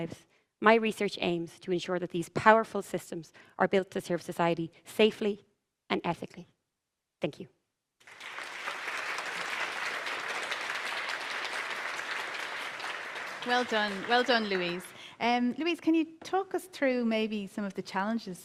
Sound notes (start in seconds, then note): 8.0 applause